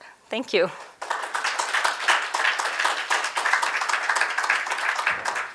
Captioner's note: audience applauds